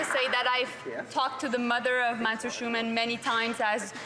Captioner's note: some Applause